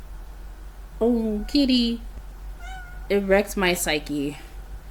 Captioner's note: meow in background